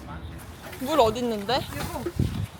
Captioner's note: washing